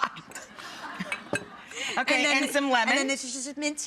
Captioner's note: laughter